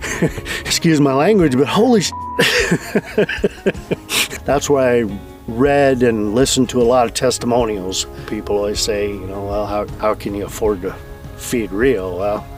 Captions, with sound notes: Excuse my language, but holy (beep). (laughs) That's why I read and listened to a lot of testimonials. People always say, you know, "Well, how, how can you afford to feed Rio?" Well,